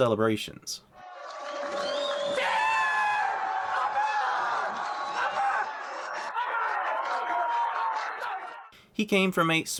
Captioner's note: Alonso Screaming: Yeah! Come On! Come On! Come On!